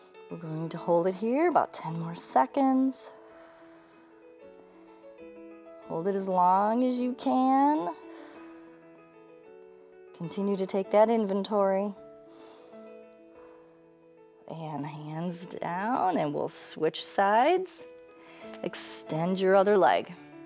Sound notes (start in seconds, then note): 8.1 exhales; 12.2 inhales and exhales